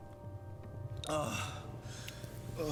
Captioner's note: sighs